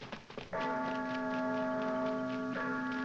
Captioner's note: church bell tolling